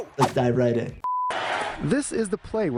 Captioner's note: beep